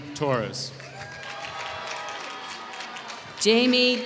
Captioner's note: applause